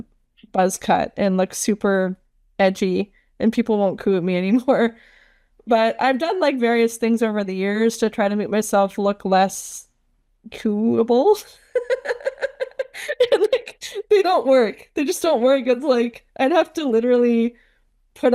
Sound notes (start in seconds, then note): 11.7 laughs